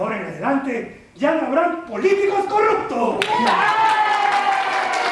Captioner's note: applause